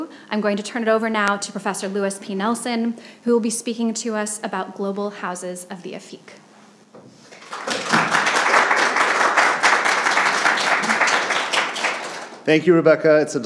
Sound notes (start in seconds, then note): 7.3 audience applauding